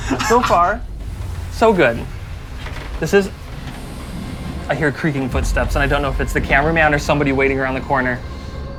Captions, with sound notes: So far, so good. This is... (muffled creaking) I hear creaking footsteps, and I dunno if it's the camera man or somebody waiting around the corner.